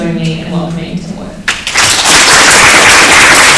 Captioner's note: applause